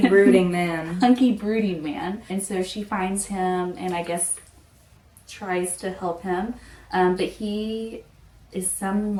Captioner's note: laughing